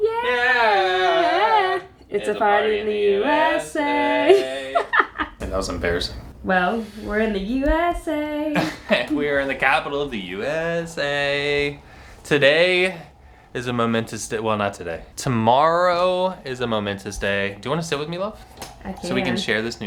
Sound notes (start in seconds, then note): 4.2 laughs